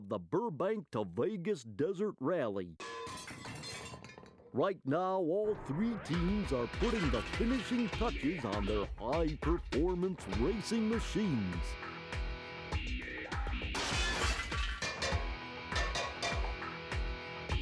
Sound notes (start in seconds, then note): 2.8 metallic clanging; 13.8 metallic clanging